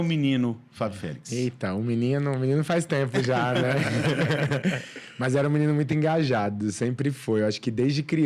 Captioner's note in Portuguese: risadas